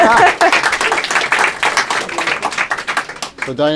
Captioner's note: applause